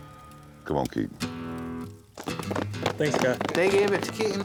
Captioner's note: applause